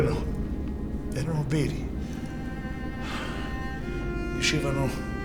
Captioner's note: melancholic music playing; sighs